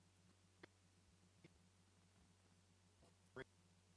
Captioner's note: stuttering audio